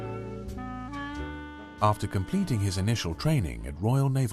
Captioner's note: voiceover